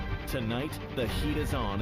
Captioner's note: HABLAN EN INGLéS